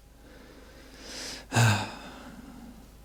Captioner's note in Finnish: huokaus